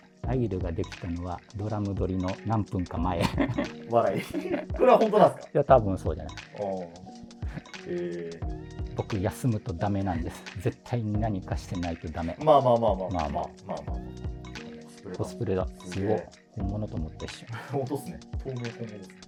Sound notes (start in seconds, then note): 3.2 laughing